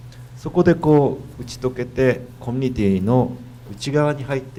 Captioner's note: speaking foreign language